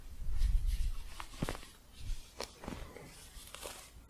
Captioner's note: soft scratching